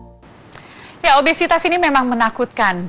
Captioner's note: non-english speech